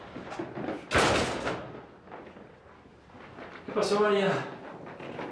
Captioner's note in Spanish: Ruido al cerrar